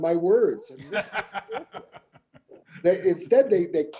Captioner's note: laughing